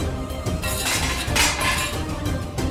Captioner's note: clanking